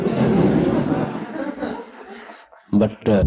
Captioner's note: laughter